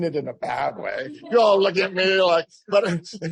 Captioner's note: laughter